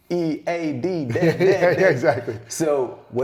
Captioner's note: laughs